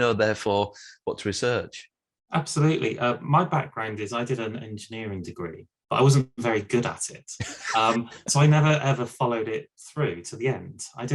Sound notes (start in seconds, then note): 7.4 laughs